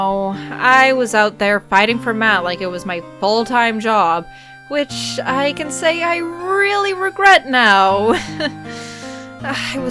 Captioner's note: nervous laugh